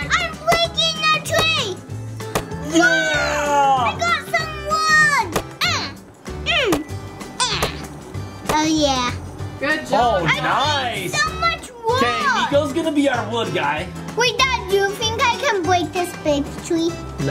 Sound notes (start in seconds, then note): 5.4 grunting